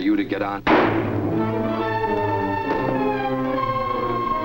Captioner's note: gunshot fires